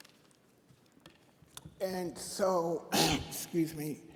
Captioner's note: clears Throat